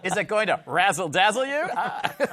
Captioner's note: laughter